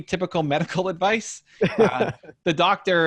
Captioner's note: laughs